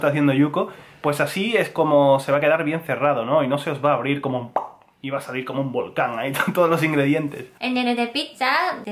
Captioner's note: pop